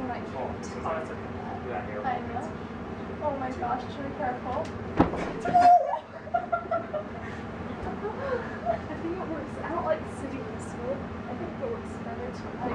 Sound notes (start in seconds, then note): 5.5 laughter